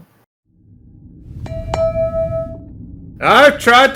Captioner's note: gavel & bell